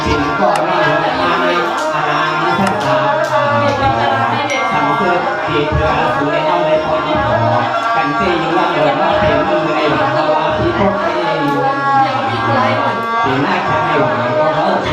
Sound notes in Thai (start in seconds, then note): 2.6 ปรบมือ